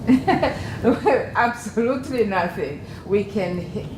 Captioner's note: laugh